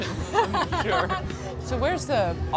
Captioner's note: laughing